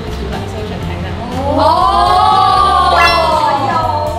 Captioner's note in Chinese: 全體驚呼